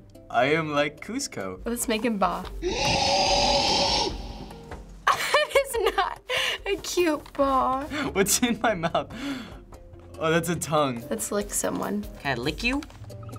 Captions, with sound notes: I am like Kusko. Let's make him 'baa'. (goat bleats demonically) That is not a cute baa. What's in my mouth? Oh, that's a tongue. Let's lick someone. Can I lick you?